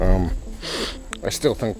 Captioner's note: sniffing